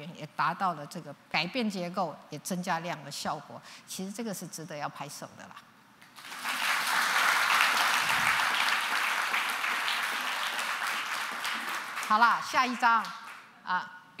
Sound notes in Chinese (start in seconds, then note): 6.0 掌聲